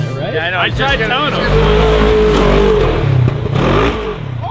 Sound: engine roars

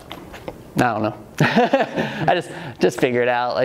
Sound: laughs

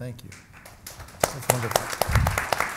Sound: audience applauds

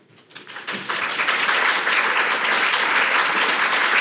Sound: audience applauding

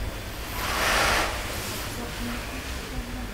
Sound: distant rattling

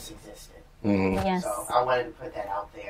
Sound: sounds of agreement

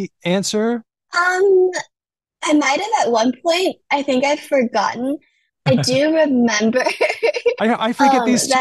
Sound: laughs

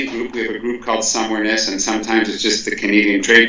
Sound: speaks French

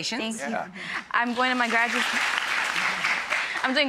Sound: audience applauds

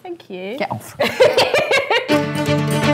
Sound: laughs

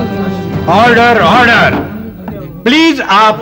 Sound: gavel tapping

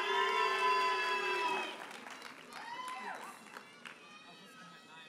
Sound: audience cheers and applauds

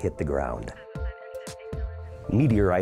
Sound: emergency radio talkng

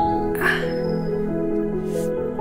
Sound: gasping in pain

